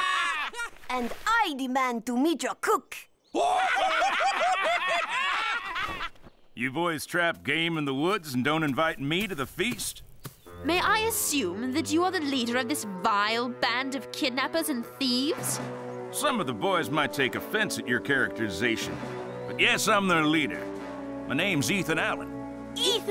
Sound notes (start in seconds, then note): 3.4 laughter continues